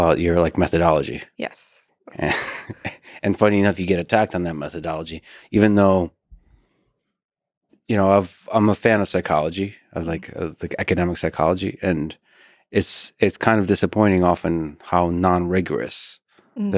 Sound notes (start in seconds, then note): 2.1 chuckles